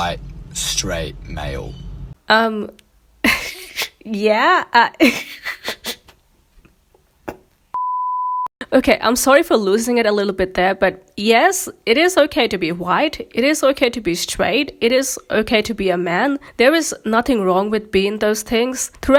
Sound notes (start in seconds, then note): 4.9 laughs; 7.7 beep